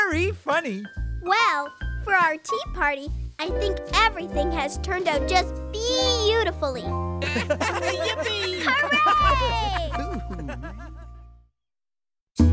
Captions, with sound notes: WELL, FOR OUR TEA PARTY, I THINK EVERYTHING HAS TURNED OUT JUST BEE-EAUTIFULLY. [ Laughter ] YIPPEE. HOORAY. OO-OOH, ME TOO.